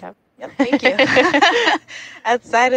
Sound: chuckling

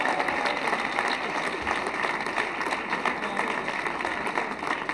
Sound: cheers and applause

